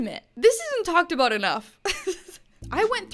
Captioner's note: laughs